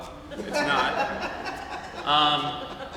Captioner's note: laughter